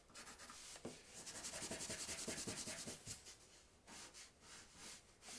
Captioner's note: eraser scratching; pencil scratching